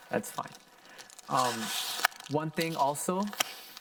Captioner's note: plastic rustling